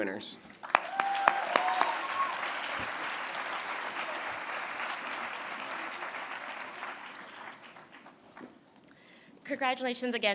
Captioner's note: applause